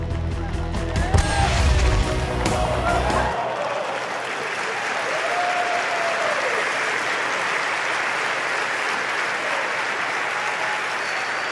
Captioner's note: applause